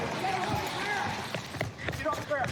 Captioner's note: footsteps running